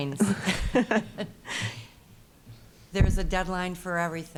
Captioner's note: both laughing